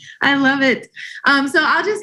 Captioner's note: chuckles